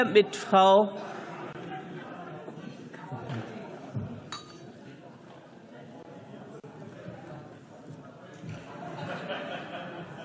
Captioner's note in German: Gelächter, Zwischenrufe